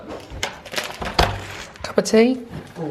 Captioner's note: latch clicks